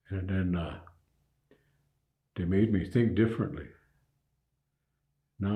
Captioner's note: none